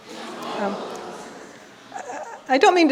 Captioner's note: audience exclaiming surprisingly